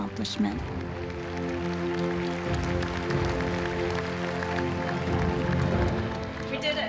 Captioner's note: cheering and applauding